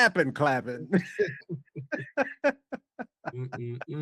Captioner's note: laughing